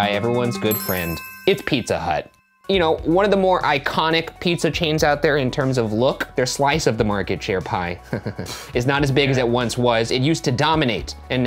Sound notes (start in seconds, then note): 0.4 ding; 8.0 laughing; 8.3 scoffs